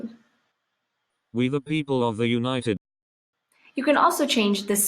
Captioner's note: computerized voice